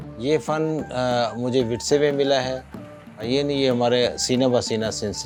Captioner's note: speaking foreign language